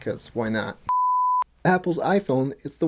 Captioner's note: beep